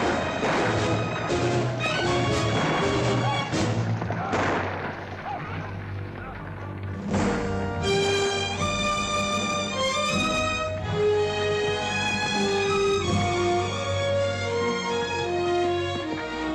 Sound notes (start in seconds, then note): 4.5 fire crackles; 7.0 dramatic music